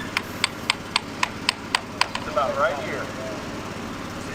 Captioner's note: hammer tapping